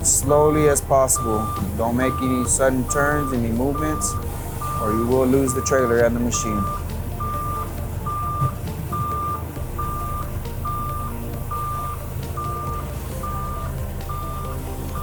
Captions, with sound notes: slowly as possible. Don't make any sudden turns, any movements, or you will lose the trailer and the machine. (lift alarm beeps) (upbeat music)